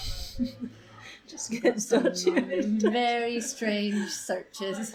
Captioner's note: laughing